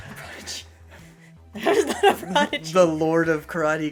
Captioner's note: laughter